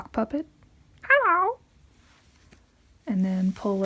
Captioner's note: high pitched voice